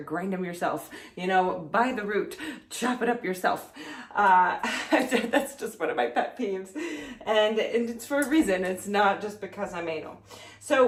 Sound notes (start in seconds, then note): 4.7 laughs